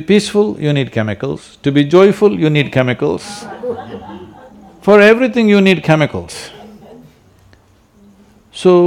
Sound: few laugh

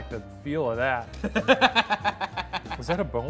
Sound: laughing

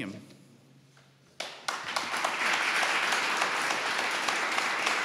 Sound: audience applauding

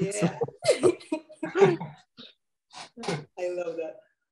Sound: laughing

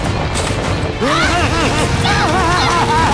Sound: Angela grunting; both laughing

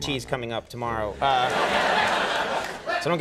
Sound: laughter

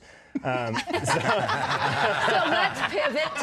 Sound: laughter

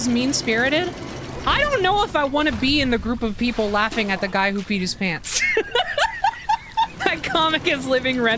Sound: laughter

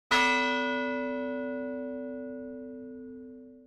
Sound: bell chiming

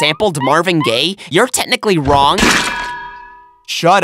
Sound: heavy anvil squash

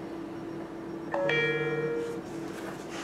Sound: phone ringtone

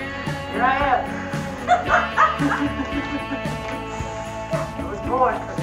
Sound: laughs

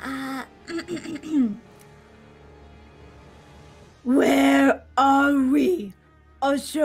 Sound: clears throat

